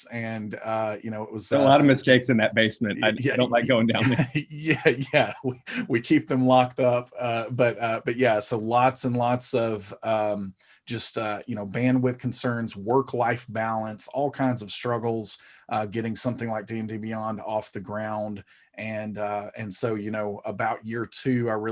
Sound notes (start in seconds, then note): 5.1 chuckling